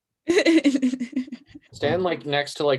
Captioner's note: laughing